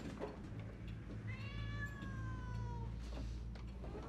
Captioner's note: cat meows